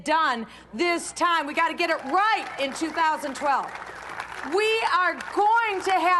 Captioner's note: cheering and applause